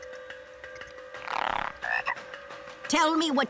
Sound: croaking

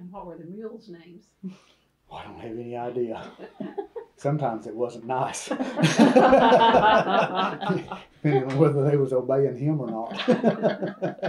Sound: laughter

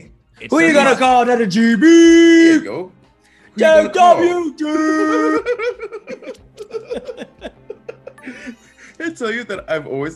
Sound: laugh

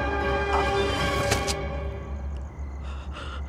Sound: body collapses; scared breathing

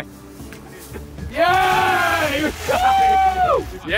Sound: waters splashing

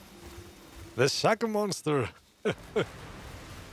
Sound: laughs

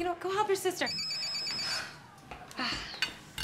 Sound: phone ringing

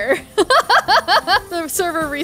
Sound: laughs

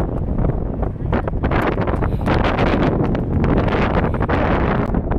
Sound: wind blowing

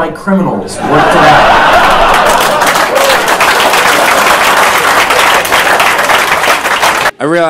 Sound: loud Laughter and Clapping

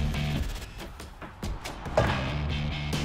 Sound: tapping

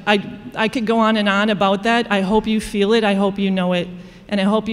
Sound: none

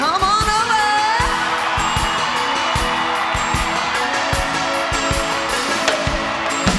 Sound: upbeat music; crowd cheering

